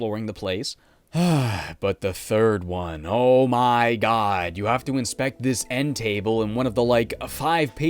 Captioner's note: sigh